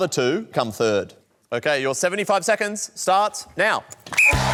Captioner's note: blows whistle